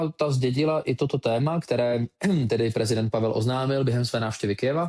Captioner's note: ahem